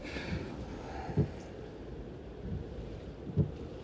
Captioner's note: Len sighing